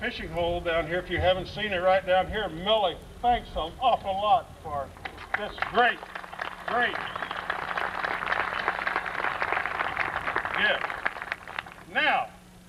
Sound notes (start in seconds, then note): 10.7 applause